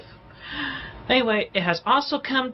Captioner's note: inhales sharply